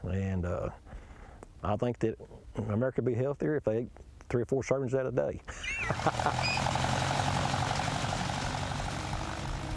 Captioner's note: laughs